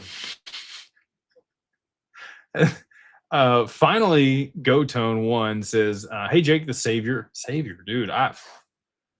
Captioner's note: snorts